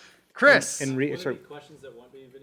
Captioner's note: voiceover